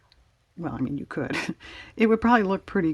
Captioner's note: laughs